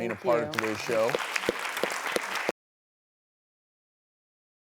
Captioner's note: clapping